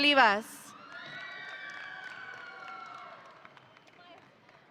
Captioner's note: audience cheering